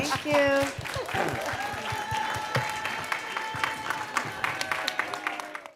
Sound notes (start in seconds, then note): 0.0 audience applauding; 0.3 audience cheering